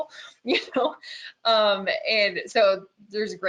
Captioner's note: chuckles